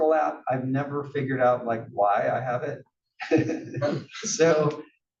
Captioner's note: laugh